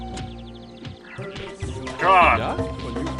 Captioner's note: exasperated sigh